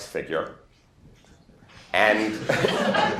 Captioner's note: laughter